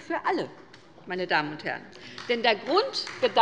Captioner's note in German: Beifall bei der LINKEN